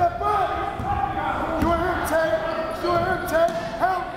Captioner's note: crowd murmuring